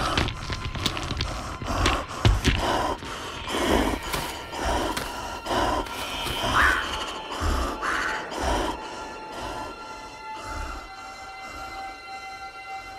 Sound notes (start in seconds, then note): 0.2 panting; 6.1 crow squawks